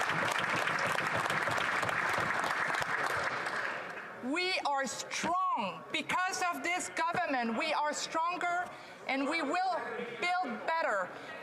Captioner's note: applause